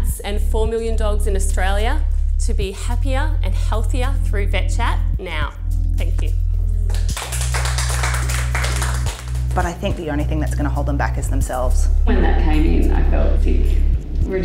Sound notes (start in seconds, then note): 6.8 group clapping